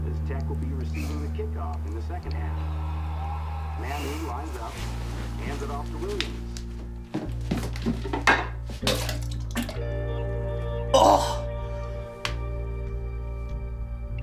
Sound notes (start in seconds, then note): 8.9 Drew coughing; 10.9 Drew groans; 13.7 dramatic instrumental rock music